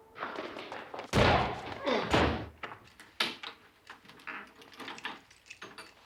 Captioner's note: grunts; bangs